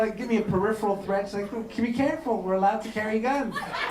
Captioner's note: laughter